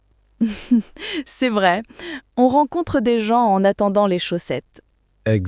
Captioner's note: laughs